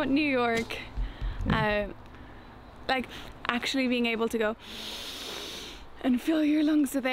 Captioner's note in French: inspire profondément